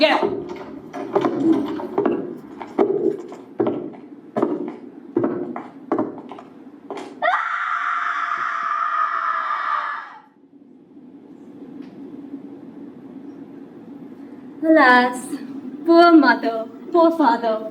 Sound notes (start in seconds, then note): 0.0 heavy footsteps; 7.2 scream